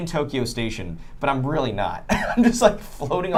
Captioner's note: laughs